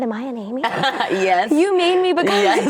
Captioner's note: laughing